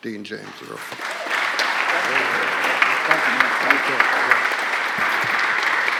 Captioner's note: applause